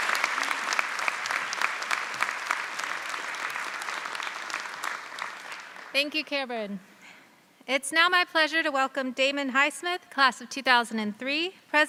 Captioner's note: applause